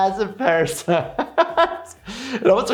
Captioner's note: laughing